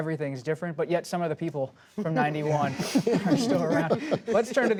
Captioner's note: laughter